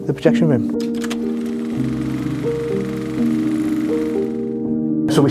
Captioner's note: machine whirring